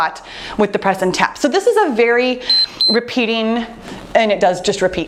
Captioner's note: timer beeps